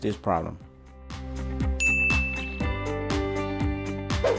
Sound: bell dings

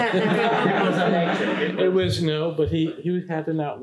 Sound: room laughs; speaks faintly

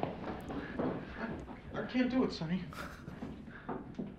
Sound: chuckling

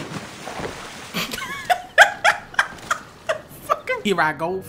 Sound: more laughter

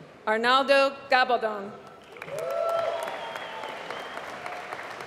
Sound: applause

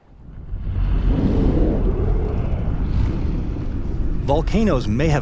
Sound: volcanoes exploding

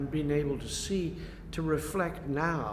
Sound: none

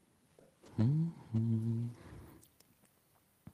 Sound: hums

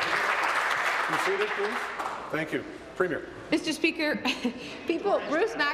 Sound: applause

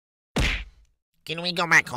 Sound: smack

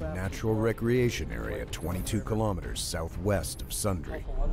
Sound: voiceover

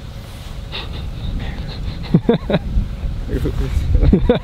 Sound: chuckling

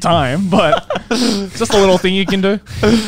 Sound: laughing

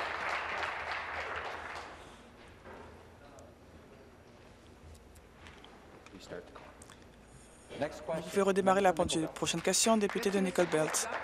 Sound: applause

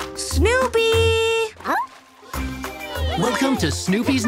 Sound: kids cheering

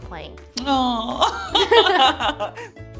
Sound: laughs

